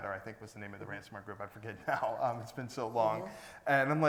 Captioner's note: laughs